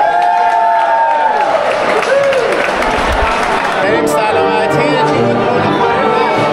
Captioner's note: applause